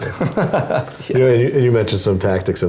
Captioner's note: laugh